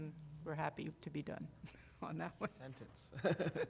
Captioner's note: laughter